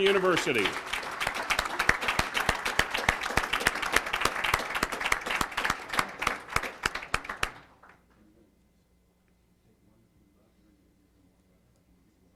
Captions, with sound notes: in joining our first round of Echo students from Washburn Tech to Washburn University. >> [Applause].